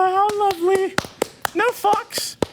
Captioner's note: applause